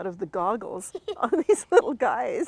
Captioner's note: both chuckle